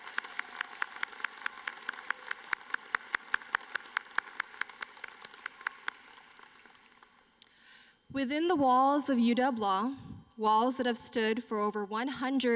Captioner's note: applause